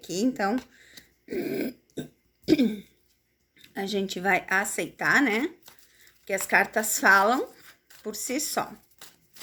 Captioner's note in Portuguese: limpando a garganta